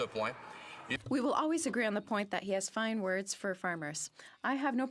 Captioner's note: speaking French